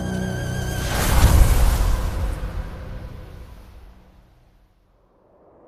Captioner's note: sandstorm